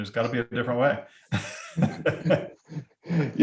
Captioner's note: laughs